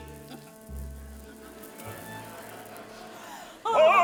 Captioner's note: audience laughing